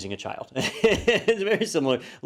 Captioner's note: laugh